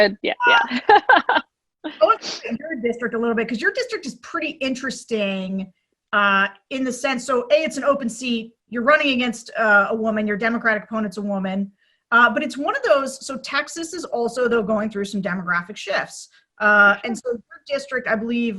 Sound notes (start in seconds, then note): 0.4 laughs